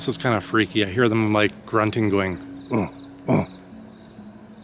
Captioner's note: imitates grunting